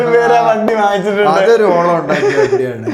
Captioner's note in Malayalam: പൊട്ടിച്ചിരി